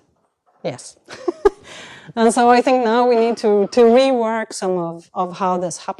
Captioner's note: chuckles